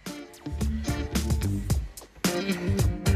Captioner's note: exhaling